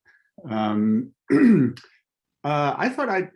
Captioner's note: clearing throat